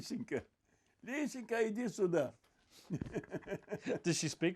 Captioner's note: laughing